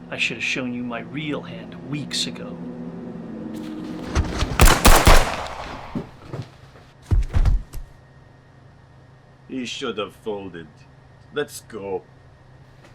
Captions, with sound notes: I should have shown you my real hand weeks ago. [guns banging] [body thuds] - You should have folded. Let's go.